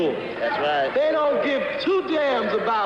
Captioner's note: voiceover